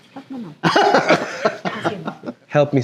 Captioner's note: laughs